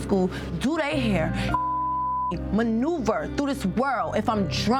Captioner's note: beep